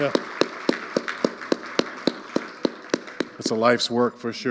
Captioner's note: audience applauding